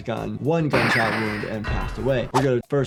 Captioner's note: gunshot booms